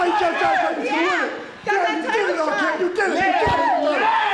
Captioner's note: group murmuring